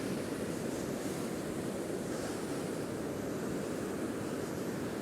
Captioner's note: water crashing